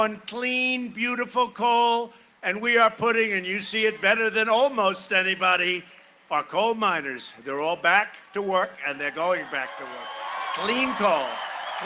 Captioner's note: cheering and applause